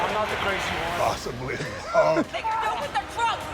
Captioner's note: laughs